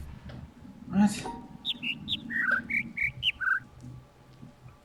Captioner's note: overlapping birds chirping, ˥ ˧ ˥ ˩